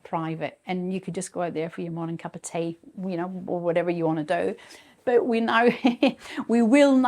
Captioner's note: chuckles